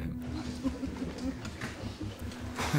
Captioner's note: chuckling